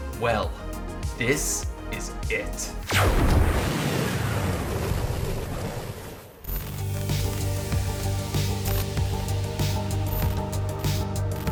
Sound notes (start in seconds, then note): 2.8 crackling; 6.6 upbeat techno music